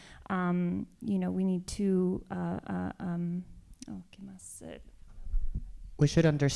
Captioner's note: speaking spanish